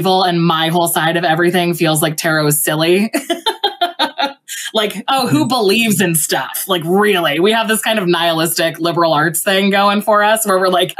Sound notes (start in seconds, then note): 3.0 laughs